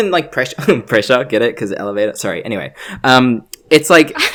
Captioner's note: giggles; laughs